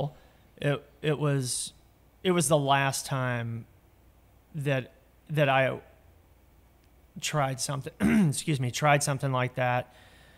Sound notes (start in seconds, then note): 8.0 coughing